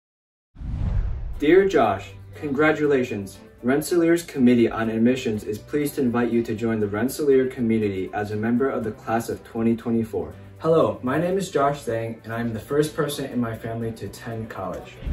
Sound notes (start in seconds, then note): 0.6 digital woosh